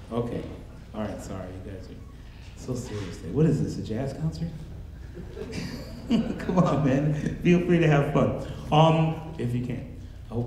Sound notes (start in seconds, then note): 5.0 laughs; 5.0 audience laughing